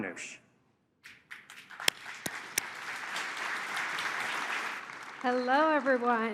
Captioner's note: applause